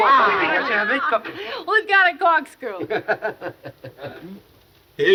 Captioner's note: man chuckling